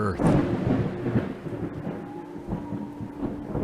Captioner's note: sound of thundering echoing